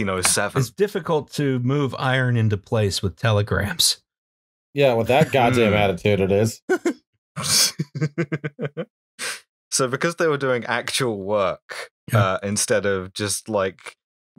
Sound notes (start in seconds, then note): 7.6 laughter